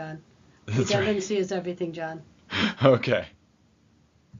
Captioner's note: chuckles